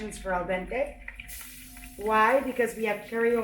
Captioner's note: speaks in Italian